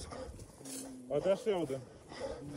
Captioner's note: sound of rustling branches